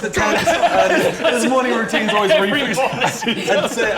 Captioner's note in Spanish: Risas